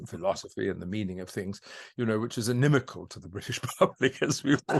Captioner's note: laughs